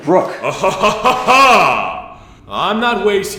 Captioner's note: Breckenridge laughs menacingly